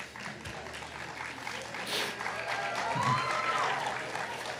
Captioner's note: attendees clapping